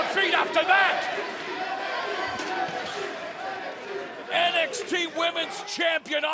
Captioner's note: fans chanting